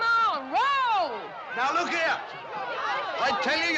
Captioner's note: Mulheres gritando